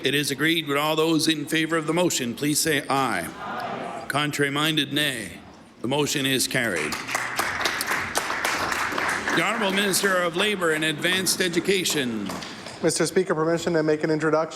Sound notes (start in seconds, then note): 10.0 applause